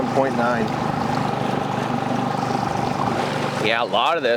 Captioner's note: water splashing